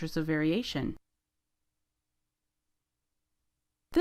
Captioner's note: silence